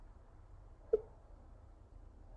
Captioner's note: mouse clicking